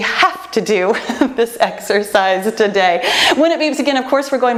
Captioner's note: laughs